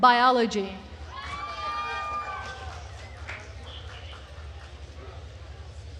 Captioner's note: attendees cheering and applauding